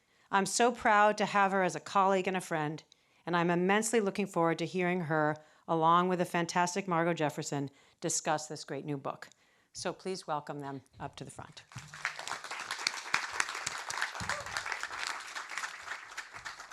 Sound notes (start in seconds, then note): 11.6 audience claps